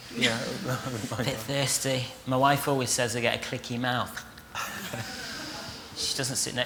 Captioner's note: laughter